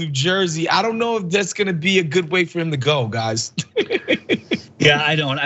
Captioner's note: laugh